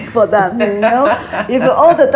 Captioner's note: laughs